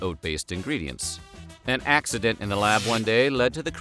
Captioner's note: electricity sound